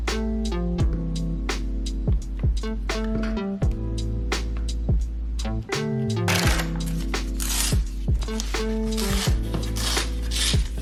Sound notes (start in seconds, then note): 8.2 paper scratching